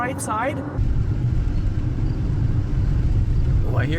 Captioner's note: crickets